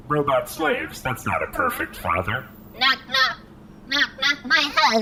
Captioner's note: robotically